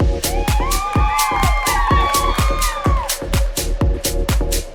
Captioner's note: crowd cheering